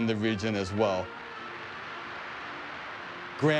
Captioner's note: applause